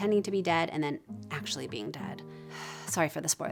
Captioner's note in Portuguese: suspira